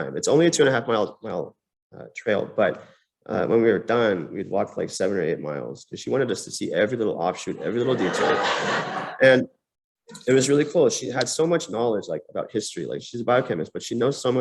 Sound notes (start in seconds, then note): 7.6 laughter